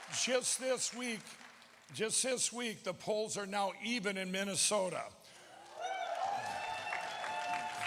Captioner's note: applause